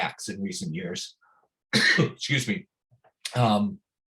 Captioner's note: coughs